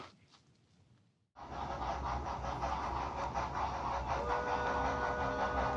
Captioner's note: train engine roaring; train hooting